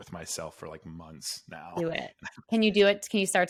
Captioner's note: laughs